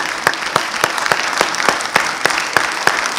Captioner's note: applause